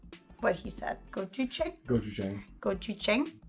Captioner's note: speaks in foreign language